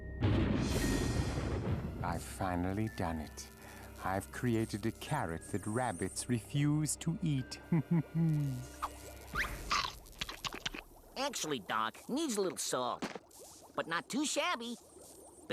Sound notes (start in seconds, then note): 7.7 laughing; 9.3 munching